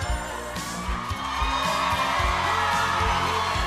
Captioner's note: cheers and applause